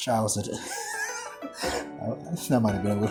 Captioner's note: laughing